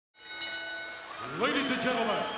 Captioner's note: bell dings